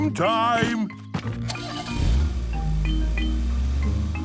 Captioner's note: engine starting